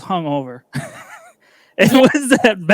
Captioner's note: laughs